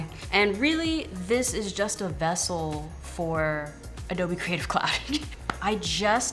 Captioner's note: laughs